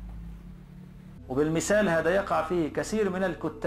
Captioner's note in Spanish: hablando en árabe